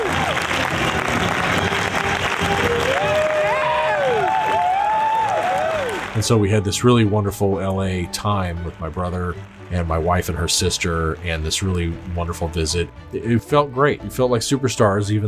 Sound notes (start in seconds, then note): 1.9 enthusiastic applause